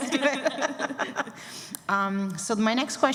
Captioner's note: laughter